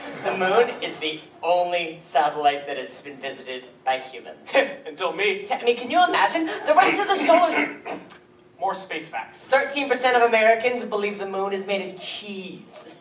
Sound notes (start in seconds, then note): 7.2 clears throat